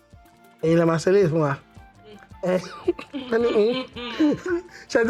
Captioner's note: laughs